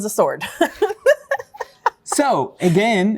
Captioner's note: laughter